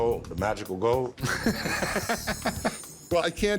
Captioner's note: laughter